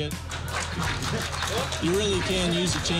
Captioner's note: applause